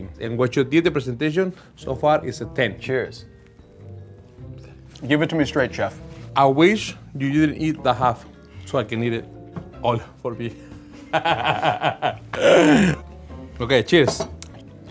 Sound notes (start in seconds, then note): 11.0 laughing